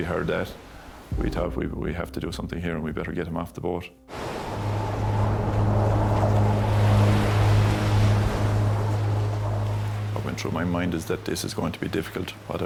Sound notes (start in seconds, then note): 3.9 dramatic music; 4.1 waves roar